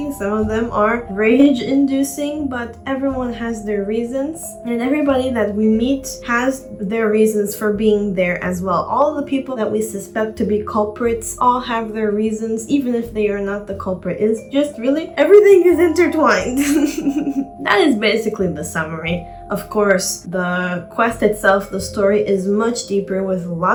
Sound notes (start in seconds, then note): 16.6 chuckle